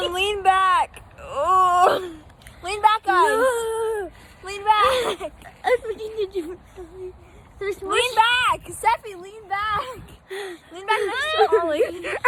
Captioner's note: lots of laughing